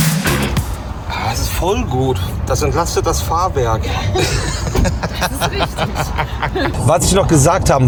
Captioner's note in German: gelächter